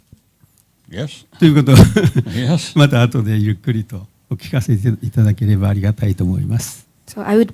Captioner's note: speaking japanese